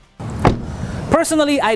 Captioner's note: door closes